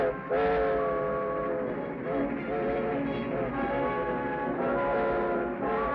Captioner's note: train horn whistles; exciting music